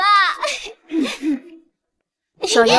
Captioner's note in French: Tousse